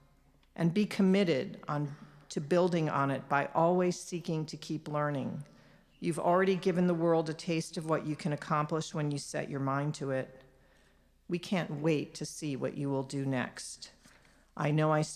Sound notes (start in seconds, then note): none